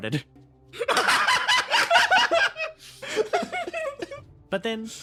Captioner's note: laughs